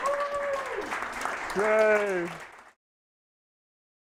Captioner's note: applause